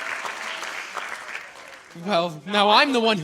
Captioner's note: applause